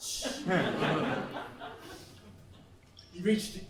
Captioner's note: laughs